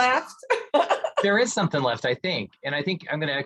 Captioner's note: chuckles